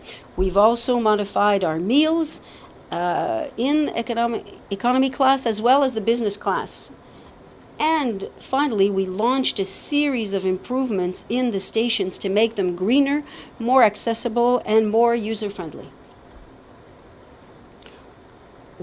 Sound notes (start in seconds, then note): none